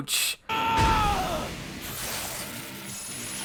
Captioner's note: Bakugo yells